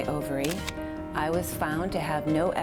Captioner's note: camera shutter clicks